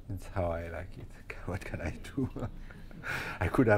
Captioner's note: laughs